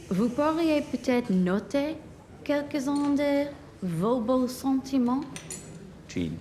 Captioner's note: woman and man speak in a foreign language